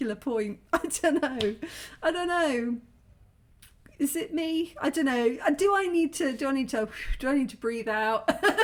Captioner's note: exhale